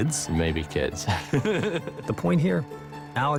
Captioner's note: laughs